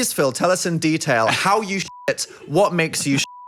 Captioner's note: beep